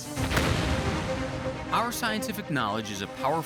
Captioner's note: loud explosion